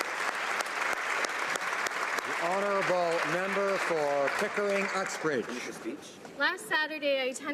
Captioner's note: applause